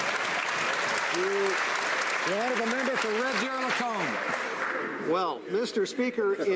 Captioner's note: some Applause